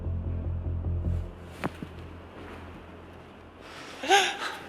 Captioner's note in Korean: 그때 들려오는 발걸음 소리